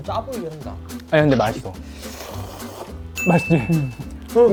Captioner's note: slurp